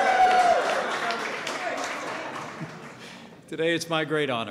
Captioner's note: applause